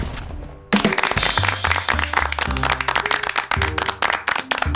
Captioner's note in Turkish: alkış sesleri